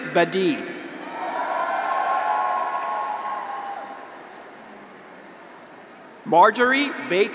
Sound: graduates cheer; audience applauds

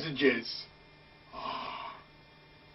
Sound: sighs

